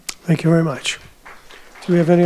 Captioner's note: audience applauding